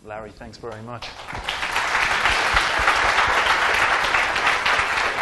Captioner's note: applause